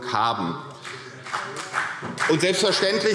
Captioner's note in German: Beifall CDU